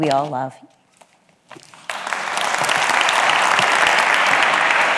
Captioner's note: audience claps